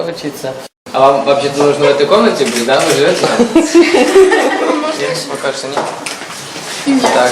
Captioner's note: students laugh